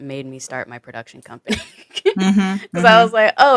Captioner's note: chuckles